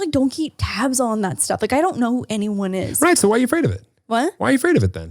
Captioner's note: none